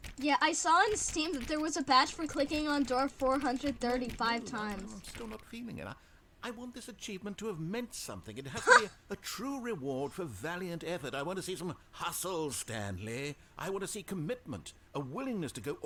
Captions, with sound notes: Yeah I saw on steam that there was a badge for clicking door 430 5 times. *laughs*